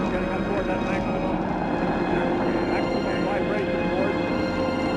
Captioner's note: people talking in background